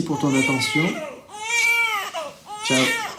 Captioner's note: baby crying